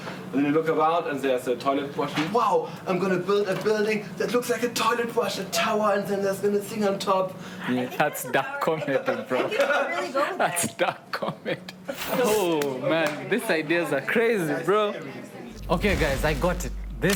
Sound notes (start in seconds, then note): 11.4 laughter